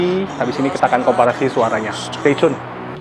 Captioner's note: speaking in Foreign language